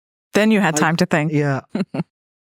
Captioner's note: chuckles